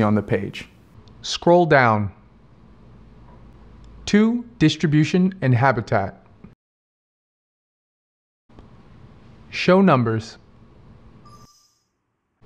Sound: Cortana acknowledgment sound

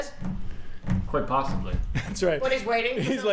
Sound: raps fingers on table

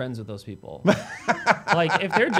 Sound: laughs

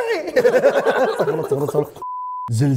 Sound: both laugh

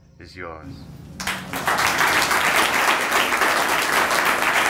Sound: audience applauding

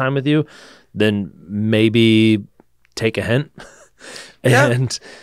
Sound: laughs

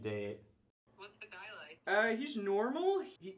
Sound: on phone

